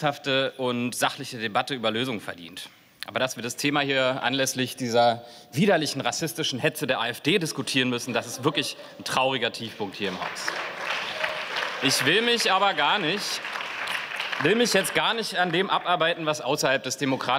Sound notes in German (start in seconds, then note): 10.6 Beifall